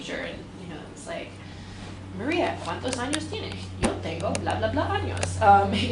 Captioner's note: speaks spanish